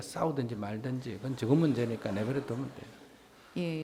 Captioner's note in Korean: 청중 웃음